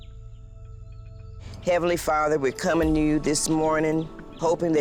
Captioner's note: birds chirping